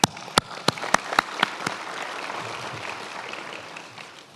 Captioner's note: many applauding